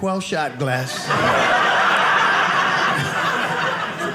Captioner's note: audience laughing